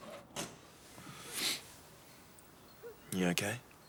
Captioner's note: John sniffs